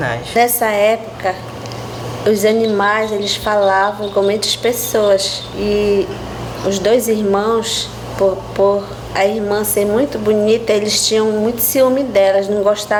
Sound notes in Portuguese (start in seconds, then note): 1.7 pássaros cantando